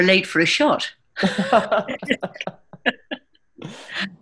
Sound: laughter

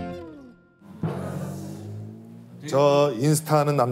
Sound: inhale

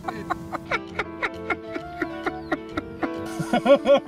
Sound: laughs

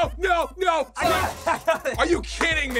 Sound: laughs

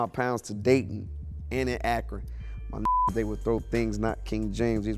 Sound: beep

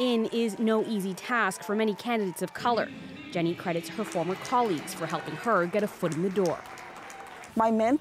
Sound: applause

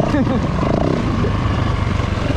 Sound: laughter

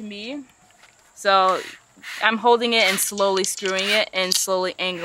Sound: drill whirring

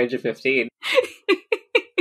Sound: laughing

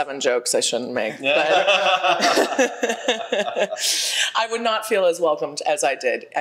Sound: panel members laugh

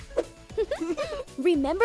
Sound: both giggling

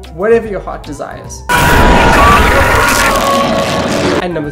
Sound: screams

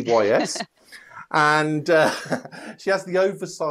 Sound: laughs

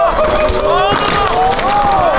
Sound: crowd

